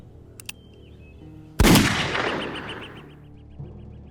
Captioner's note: gunshot blasts; tense somber music